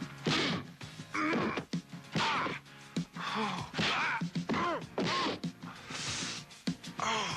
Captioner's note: fists thudding; Dan grunting